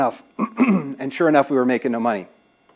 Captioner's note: cough